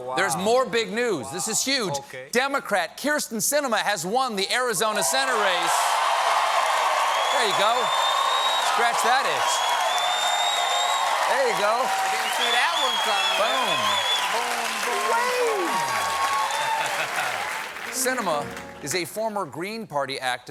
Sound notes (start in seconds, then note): 7.6 cheers and applause